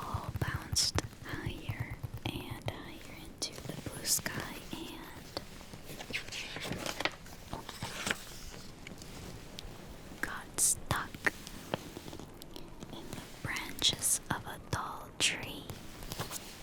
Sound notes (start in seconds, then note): 5.0 flips page